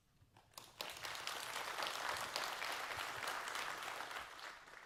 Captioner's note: audience applauds